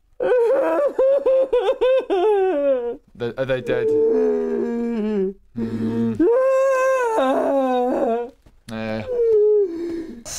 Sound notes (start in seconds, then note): 0.2 uncontrollable crying; 3.6 more crying; 5.6 even louder crying